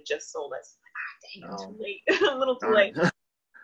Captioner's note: laughs